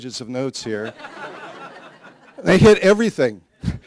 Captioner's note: laughter